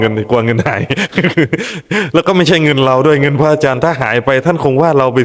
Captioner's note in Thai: เสียงหัวเราะ